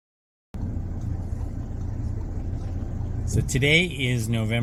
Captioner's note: car engine rolling